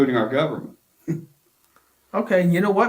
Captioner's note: laughs